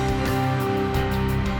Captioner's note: none